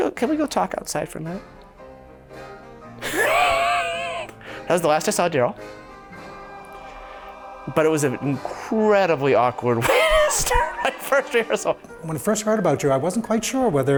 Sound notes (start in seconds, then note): 3.0 he laughs